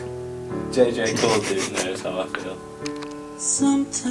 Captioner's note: Eric laughs; Arnold laughs